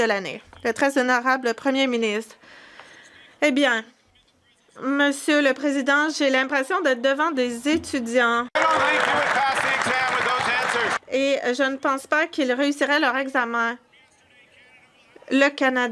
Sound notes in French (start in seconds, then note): 7.0 voix de l'interprète